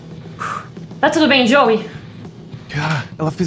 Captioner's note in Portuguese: Suspiro